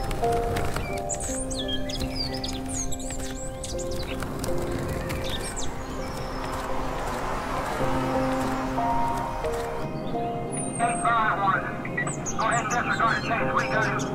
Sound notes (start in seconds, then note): 0.1 birds chirping; 3.2 relaxing piano music; 6.3 vehicle humming; 10.7 police radio chatter